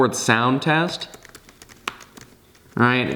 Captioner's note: mushy sound